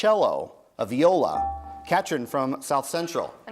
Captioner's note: bell rings